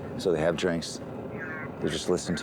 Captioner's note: on phone